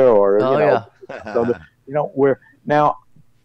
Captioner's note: laughs